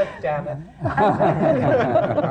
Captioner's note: laughter